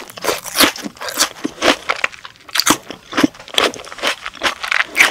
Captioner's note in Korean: 아삭 아삭